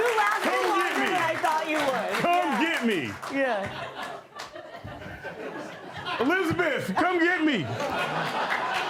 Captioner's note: applause; laughter